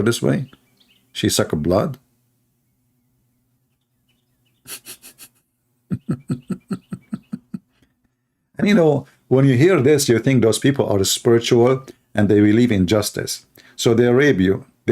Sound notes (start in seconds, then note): 5.9 Ketawa